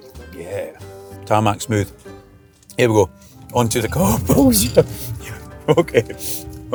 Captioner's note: laugh